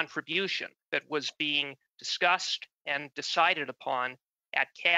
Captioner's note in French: voix de l'interprète